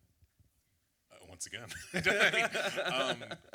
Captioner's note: laugh